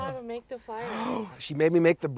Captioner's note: gasps